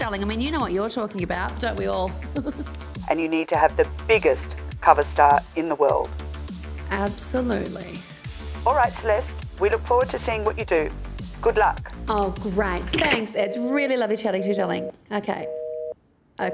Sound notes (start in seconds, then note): 12.9 phone line clicks; 14.3 dial tone beeps